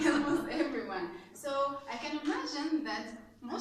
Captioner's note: laughs ~ all raised their hand their hands